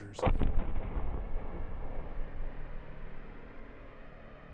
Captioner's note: thunderous booming